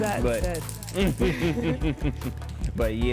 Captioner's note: both laugh